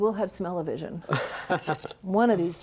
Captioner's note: chuckles